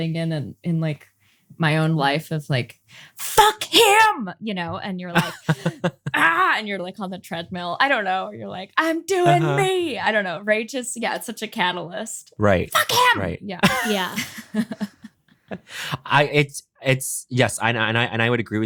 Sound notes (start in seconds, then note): 5.1 bowen laughing; 6.0 grunts; 9.2 bowen chuckling; 13.6 all chuckling